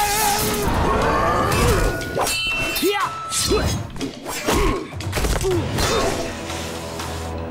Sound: grunting

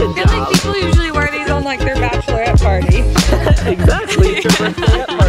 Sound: laughs

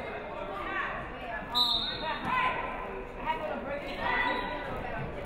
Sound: referee whistles

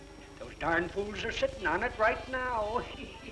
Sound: laughter

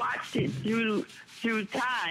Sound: laughter

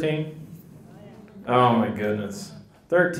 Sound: people chatter

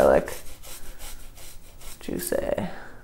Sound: grating

